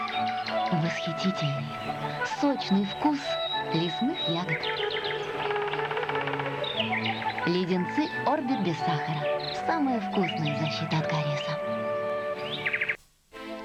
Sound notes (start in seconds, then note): 3.8 woodpecker beak knocking; 5.0 relaxing music